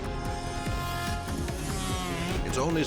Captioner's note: engine roars